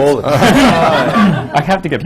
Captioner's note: laughter